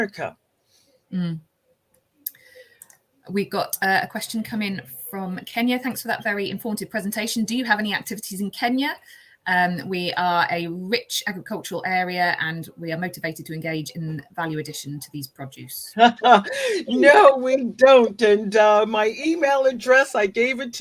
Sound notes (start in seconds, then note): 16.0 laughs